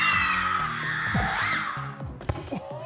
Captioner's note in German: Sie schreien